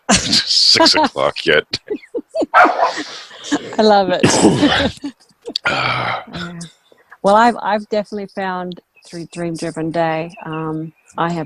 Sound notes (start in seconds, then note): 1.7 laughs; 2.5 dog barks; 5.3 laughs